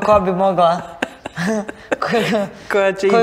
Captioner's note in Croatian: smijeh